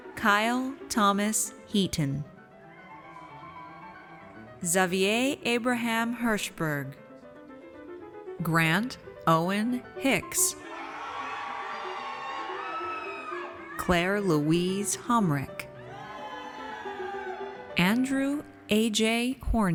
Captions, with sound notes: Kyle Thomas Heaton. Xavier Abraham Herschberg. Grant Owen Hicks. (audience cheers) Claire Louise Homrich. (audience cheers) Andrew AJ Horney.